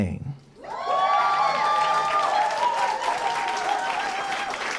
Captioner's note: cheering & applause